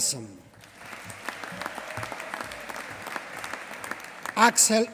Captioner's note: applause